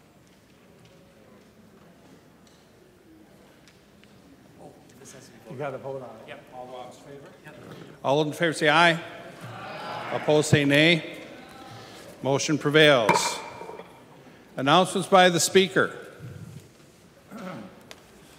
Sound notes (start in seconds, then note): 13.0 chorus of ayes